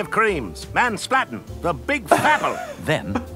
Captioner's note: laughing